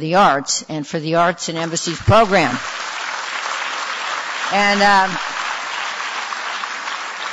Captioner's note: audience applause